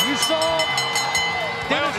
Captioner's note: bell ringing